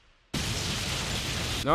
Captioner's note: ka-boom